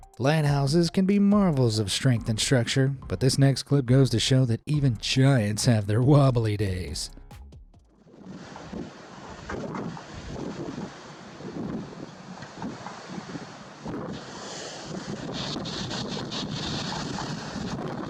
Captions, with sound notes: Lighthouses can be marvels of strength and structure, but this next clip goes to show that even giants have their wobbly days. (waves crashing) (wind roaring)